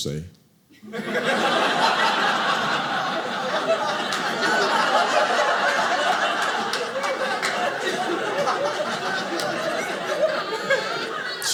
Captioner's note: audience laughing